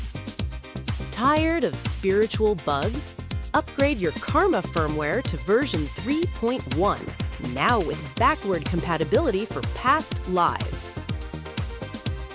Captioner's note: overly cheerful